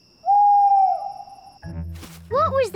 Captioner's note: owl hoots